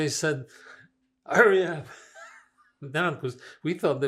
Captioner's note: laughing